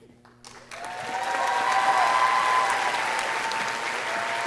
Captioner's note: audience cheering